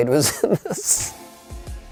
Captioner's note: laughing